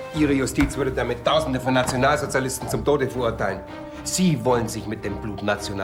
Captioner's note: none